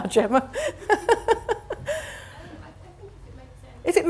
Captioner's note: laughs